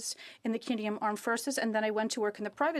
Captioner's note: speaking French